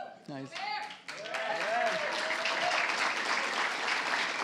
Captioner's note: applause